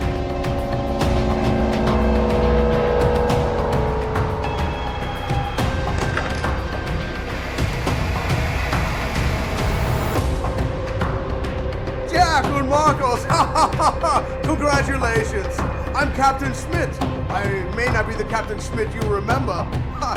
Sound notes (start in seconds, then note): 0.1 rousing electronic music; 12.6 laughs